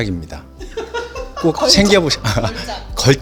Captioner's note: laugh